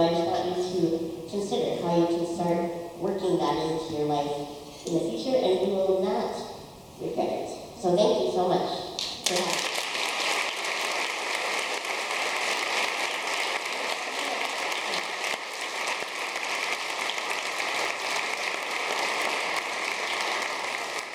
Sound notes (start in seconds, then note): 10.1 audience clapping